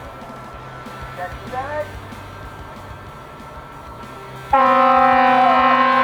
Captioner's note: fire truck honks